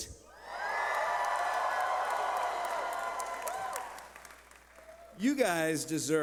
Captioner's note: cheering